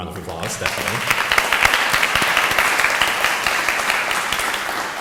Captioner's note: audience applauding